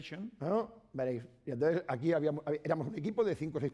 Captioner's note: speaking spanish